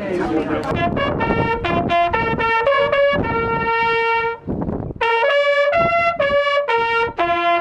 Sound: wind noise

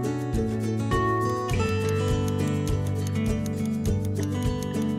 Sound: bright music; timer ticking

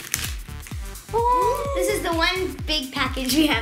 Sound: gasping

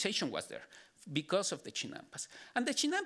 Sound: speaking Spanish

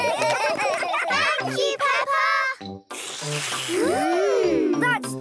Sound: all slurping

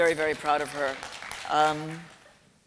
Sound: applause

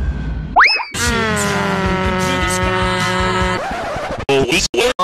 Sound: mario head sounds

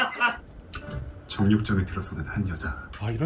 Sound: recorded narration

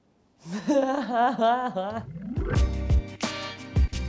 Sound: laughs

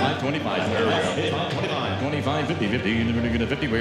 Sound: auctioneer calling

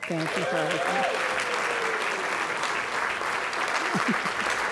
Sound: applause

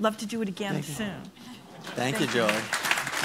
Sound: applause

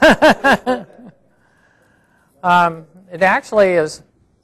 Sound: laughing

